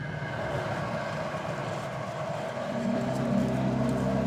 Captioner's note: machine humming sounds